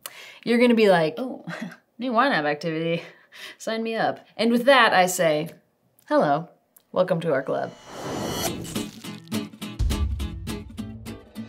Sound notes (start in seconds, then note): 7.5 screen whooshes; 7.6 upbeat music